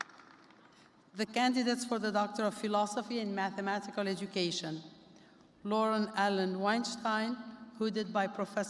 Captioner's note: applause